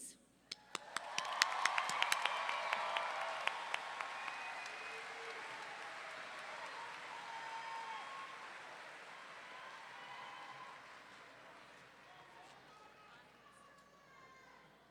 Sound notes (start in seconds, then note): 0.7 clapping; 0.7 roaring cheer